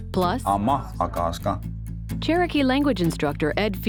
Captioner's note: Speaking in Cherokee language